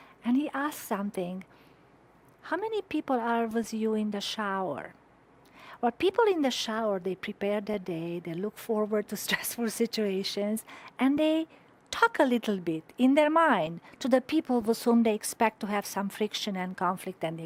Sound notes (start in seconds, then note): 9.2 chuckling